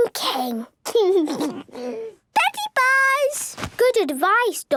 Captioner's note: laugh